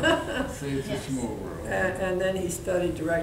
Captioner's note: laughing